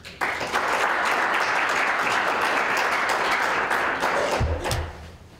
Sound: applause

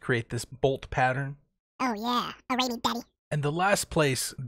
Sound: video briefly speeds up, chipmunk voice is back; video resumes, normal voice resumes

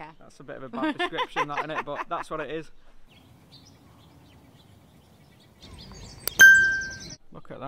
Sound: laughing

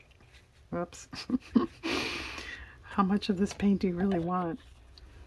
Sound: laughs

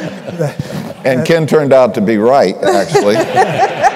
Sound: laughter

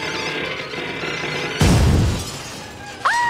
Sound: loud crash; screaming

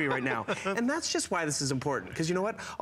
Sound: foreign language

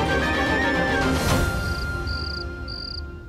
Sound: crickets chirping

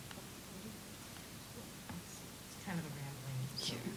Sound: indistinct chatter

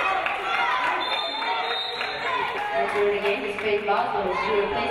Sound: referee blows whistle

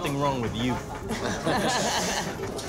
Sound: laughs

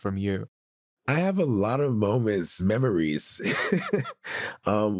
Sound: laughs

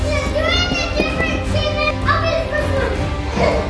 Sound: kids yelling

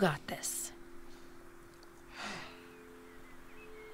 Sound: deep sighing

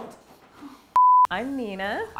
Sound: electronic beeping

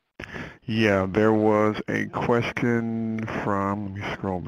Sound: voiceover

